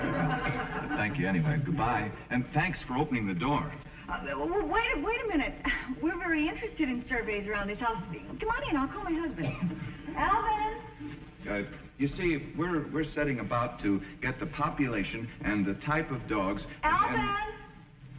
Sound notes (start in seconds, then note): 0.0 audience snickering; 8.2 sighs